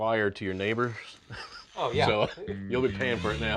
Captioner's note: laughter